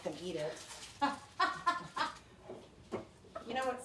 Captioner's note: laughs